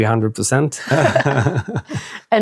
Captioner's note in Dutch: lacht